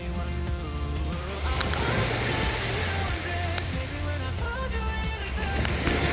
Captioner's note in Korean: 밤바다의 파도 소리